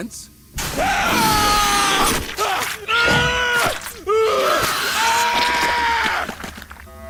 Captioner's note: screams